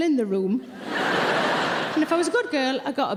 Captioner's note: audience laughing